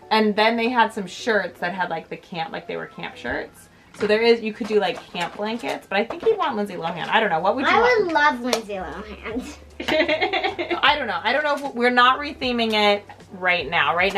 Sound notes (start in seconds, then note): 9.3 laughs